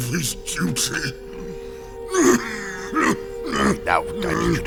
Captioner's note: heavy coughing